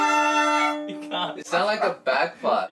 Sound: laughs

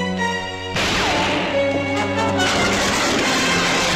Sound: gun fires

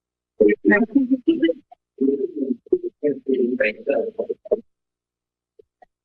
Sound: background chatter

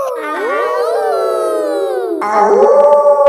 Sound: howling; kids howling; wolf howling loudly

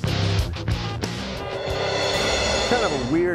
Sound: beeping

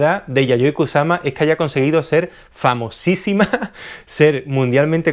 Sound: giggles

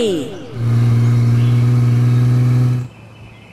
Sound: engine sound

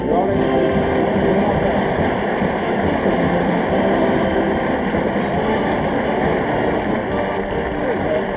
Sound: audience applauding

